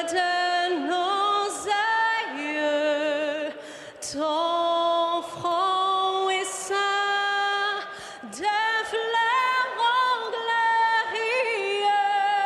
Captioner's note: cheering